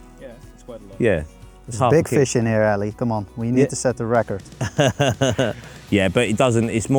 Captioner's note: laughs